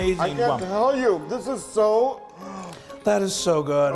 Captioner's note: gasps